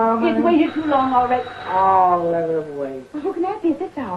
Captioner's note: doorbell ringing